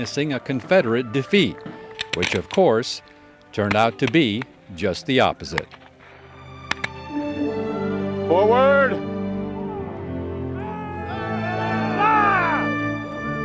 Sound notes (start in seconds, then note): 10.4 men yelling